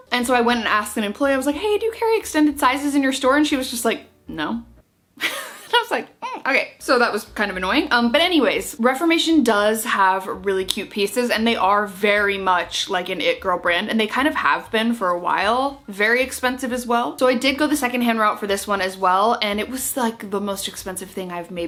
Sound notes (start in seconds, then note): 5.2 laughs